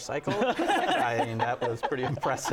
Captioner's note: laughter